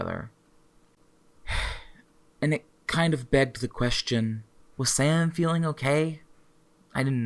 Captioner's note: sighs